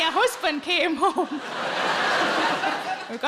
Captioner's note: audience laughing